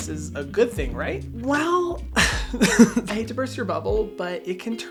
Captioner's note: laughs